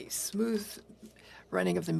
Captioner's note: speaking French